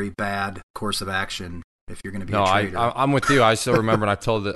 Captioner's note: chuckles